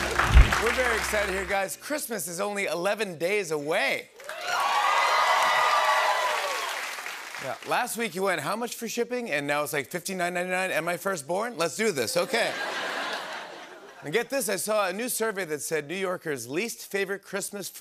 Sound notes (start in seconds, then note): 4.2 cheers and applause; 12.2 laughter